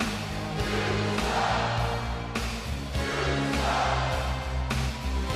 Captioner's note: crowd chants "You suck"